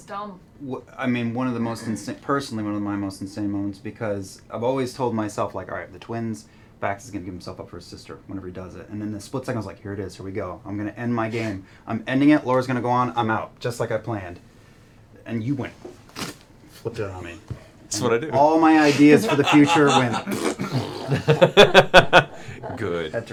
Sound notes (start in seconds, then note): 19.0 pfft